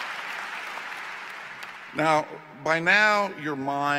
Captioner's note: cheers & Applause